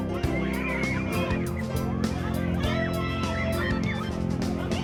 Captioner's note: children yelling